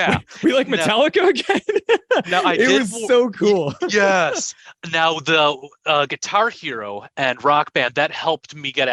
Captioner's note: laughter